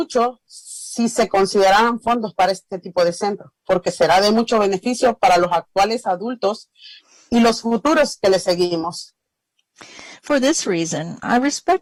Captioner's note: speaking spanish